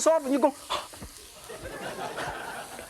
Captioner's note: audience laughs